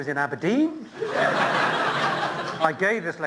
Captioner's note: laughter